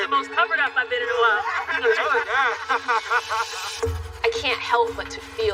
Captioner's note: laughter